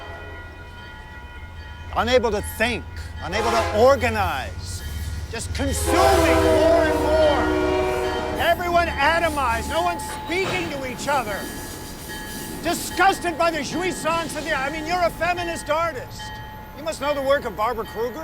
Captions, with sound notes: unable to think, unable to organize! Just consuming more and more! (train horn blares) Everyone atomized! No one speaking to each other! Disgusted by the (speaks foreign language)! I mean, you're a feminist artist! You must know the work of Barbara Krueger.